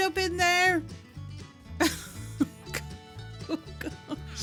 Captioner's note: laughing in despair